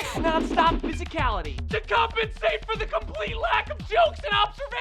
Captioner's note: shouting